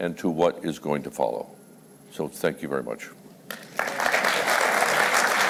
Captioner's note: applause